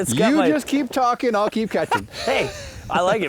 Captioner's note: laughs